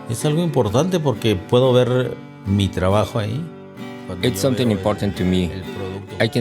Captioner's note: speaking in foreign language